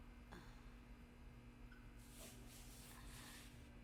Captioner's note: Julie sighing